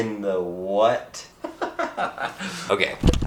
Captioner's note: laughs